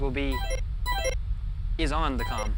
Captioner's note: com ringing